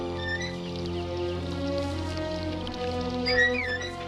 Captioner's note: trap squeaking